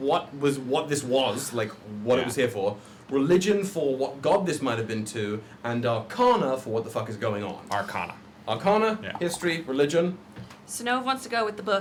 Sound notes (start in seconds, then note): none